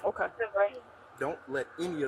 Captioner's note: radio chatter